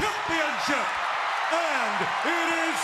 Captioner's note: audience cheers